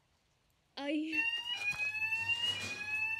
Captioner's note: fire alarm blaring; scuffling